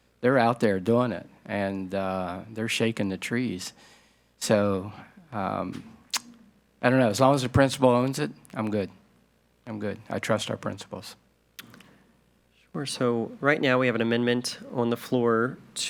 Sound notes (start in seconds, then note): none